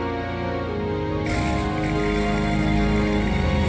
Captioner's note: engine starts